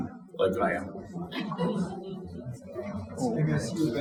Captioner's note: audience chuckling